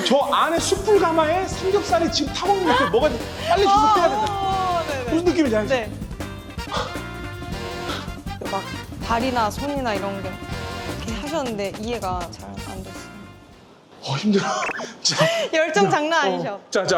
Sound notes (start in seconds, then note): 6.7 out of breath